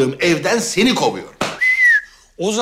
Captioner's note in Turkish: Islık çalma sesi